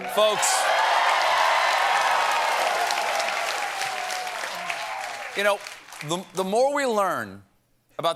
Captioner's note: cheers and applause